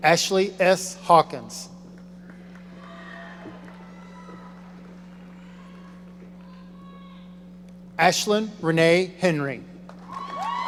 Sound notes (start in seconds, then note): 2.2 audience applauding; 9.9 audience cheering